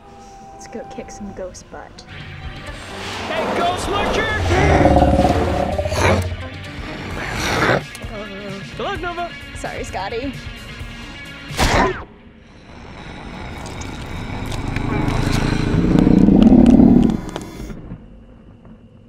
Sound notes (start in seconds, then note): 4.5 growls; 13.4 growl, bones shifting